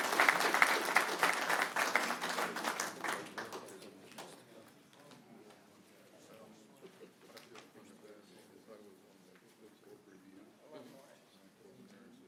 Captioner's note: applause